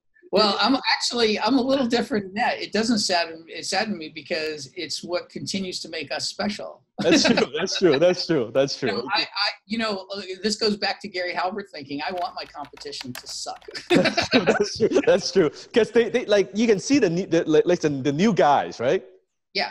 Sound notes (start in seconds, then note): 7.0 laughs; 13.7 laughing